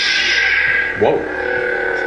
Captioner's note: electronic buzzing